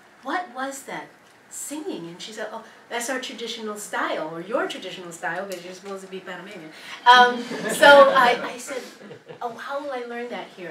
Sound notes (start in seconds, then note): 7.3 laugh